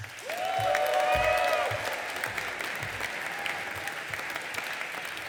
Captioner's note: audience applauding and cheering